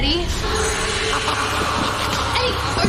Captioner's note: Râsete cu ecou